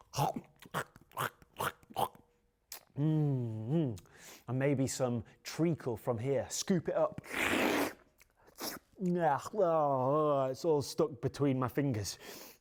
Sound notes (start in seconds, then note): 0.1 grunts; 7.2 slurps